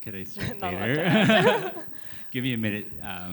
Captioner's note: laughter